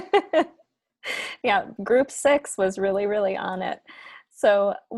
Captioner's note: laughs